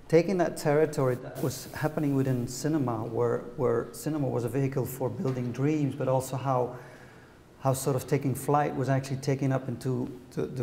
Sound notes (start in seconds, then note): none